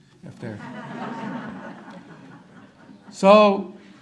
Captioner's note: audience laughter